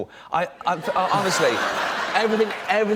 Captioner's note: laughter